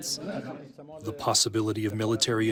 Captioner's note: through translator